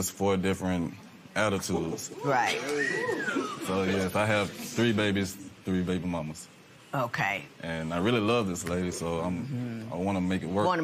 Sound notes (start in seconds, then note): 3.1 man whistles